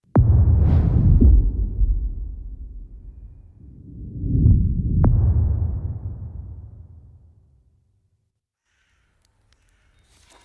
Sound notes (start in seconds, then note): 2.1 dramatic sound